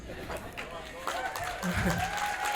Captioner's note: audience Applauds